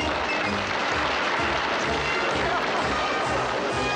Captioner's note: audience applauding